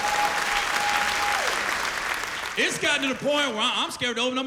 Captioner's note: cheers and applause